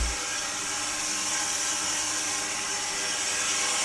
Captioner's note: saw whirring